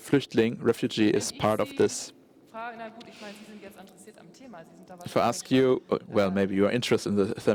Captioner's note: German spoken